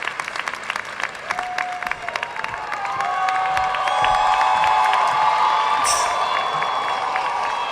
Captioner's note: students cheering